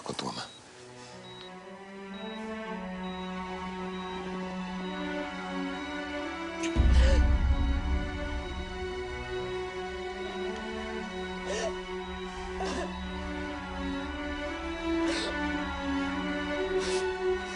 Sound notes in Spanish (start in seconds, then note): 7.9 Sollozos